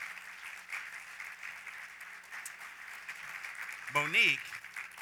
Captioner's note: applause